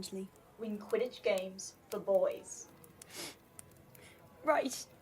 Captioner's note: Marlene sniffles